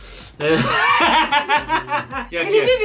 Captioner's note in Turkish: Gülüyorlar